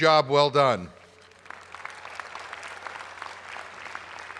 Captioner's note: applause